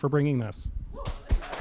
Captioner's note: applause